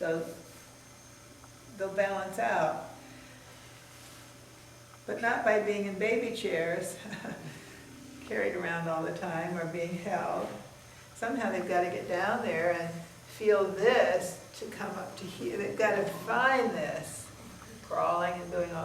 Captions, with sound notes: they'll balance out. But not by being in baby chairs (chuckling) carried around all the time or being held. Somehow they've gotta get down there and feel this to come up to here. They've gotta find this, crawling and doing